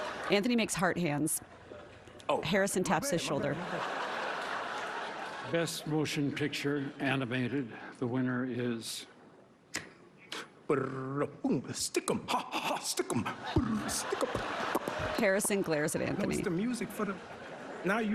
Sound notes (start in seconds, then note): 6.4 laughter